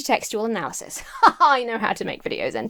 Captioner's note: laughs haughtily